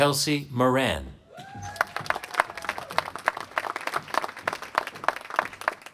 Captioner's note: applause